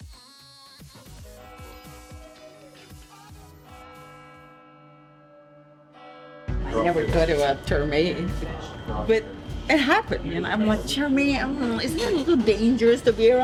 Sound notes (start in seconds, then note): 0.0 happy electronic music; 1.4 bell-like ringing